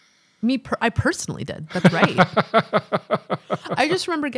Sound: chuckling

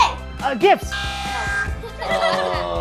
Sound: buzzer; laughs

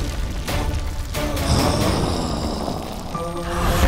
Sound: growling

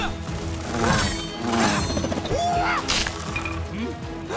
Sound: grunting

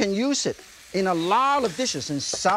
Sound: mushrooms sizzling

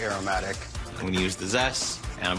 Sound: tapping

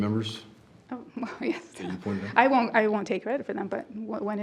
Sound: chuckles

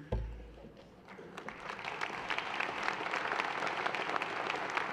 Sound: audience applauds

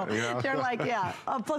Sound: laughter

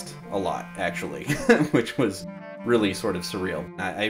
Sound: laughs

